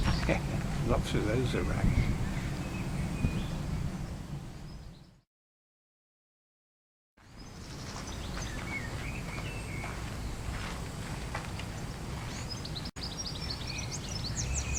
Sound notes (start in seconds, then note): 7.2 birds Chirping